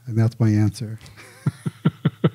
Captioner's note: chuckling